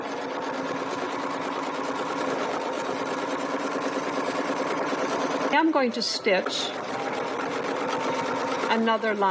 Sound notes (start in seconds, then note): 1.7 sewing machine whirring